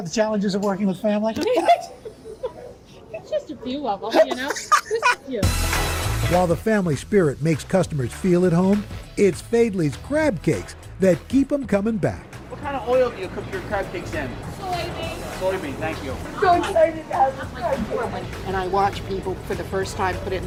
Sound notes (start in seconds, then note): 4.1 laughter